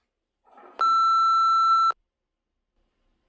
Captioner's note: beeping